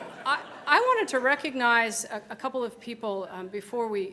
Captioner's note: laughter